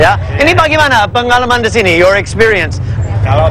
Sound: speaking indonesian

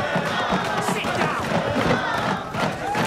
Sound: chanting continues

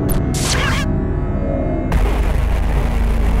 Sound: meows

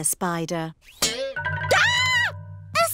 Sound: screams

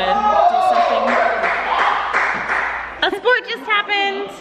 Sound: cheers

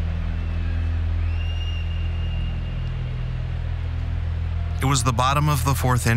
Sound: crowd cheers, whistles

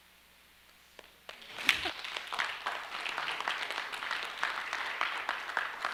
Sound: audience applauding

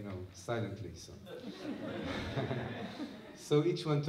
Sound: laughter

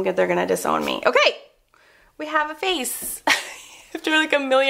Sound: laughs

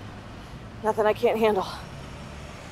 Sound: none

